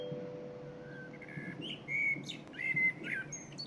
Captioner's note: birdsong, underlying